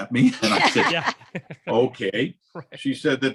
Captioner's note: laughs